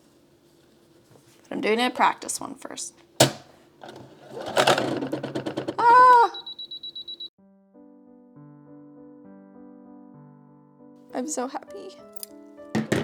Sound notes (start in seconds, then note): 6.7 the sound of a rude machine